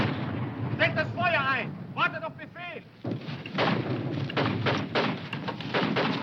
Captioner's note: speaking foreign language